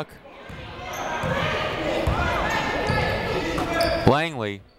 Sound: people shouting in the crowd

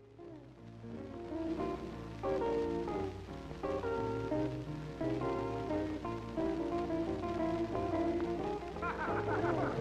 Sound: laughter

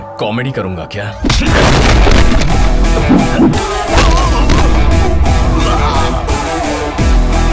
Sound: smashing

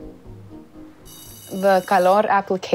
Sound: bell ringing

